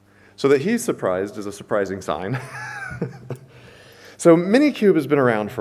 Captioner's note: chuckles